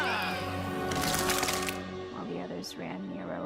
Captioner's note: scorpion squelches